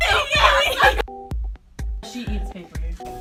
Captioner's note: yelling